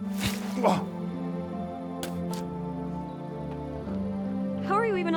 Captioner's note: gentle music; Walter gasps